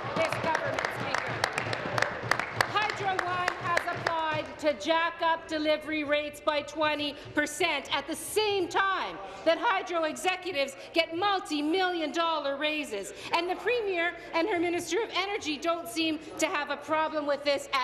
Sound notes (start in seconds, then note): 5.0 applause